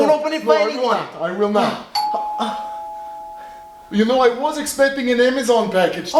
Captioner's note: ding